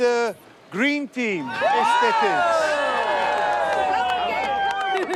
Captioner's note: crowd cheers